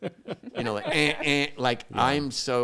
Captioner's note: imitates beeps